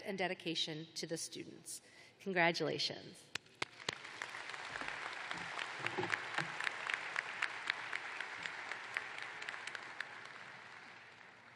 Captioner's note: applause